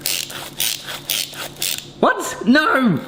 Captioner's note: gadget creaks